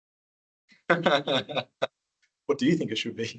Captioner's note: laughing